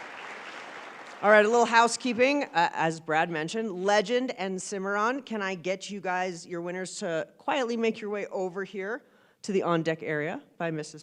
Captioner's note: applause